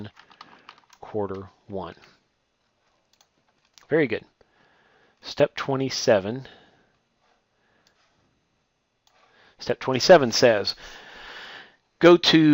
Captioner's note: typing